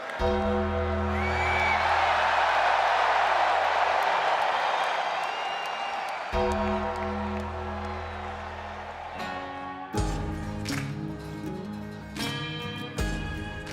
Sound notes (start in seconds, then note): 0.2 gong tolling; 0.6 crowd cheering; 6.4 gong tolling; 9.7 dramatic music